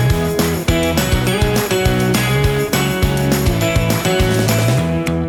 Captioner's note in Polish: Aplauz